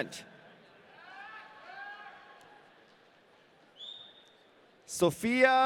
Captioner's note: audience cheering